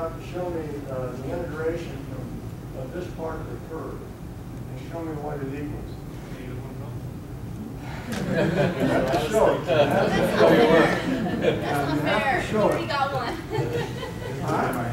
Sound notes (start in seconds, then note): 6.6 student mumbling; 7.9 audience laughing